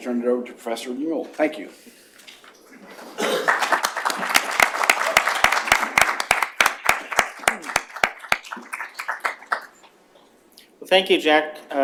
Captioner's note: applause